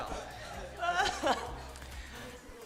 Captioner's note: laughter in the background